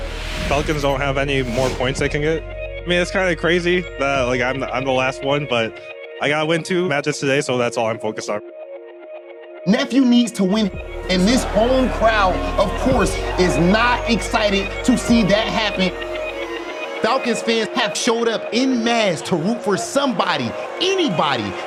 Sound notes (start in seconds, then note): 15.2 crowd booing